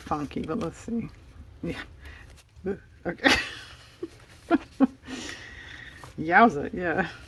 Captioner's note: laughs